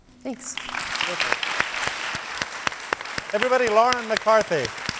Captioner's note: audience applauds